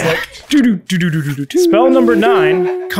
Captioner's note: vocal drum imitation